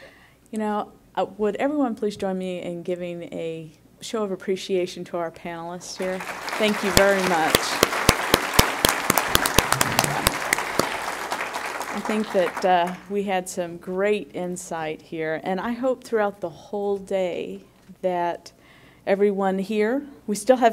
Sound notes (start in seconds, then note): 8.6 applause